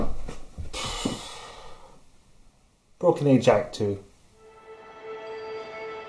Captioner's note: huff